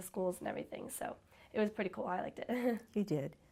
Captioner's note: chuckles